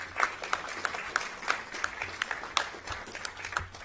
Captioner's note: applause